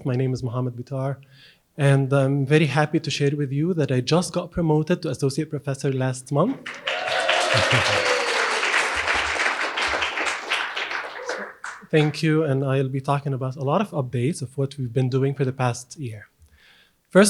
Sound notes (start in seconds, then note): 6.6 audience cheers and applauds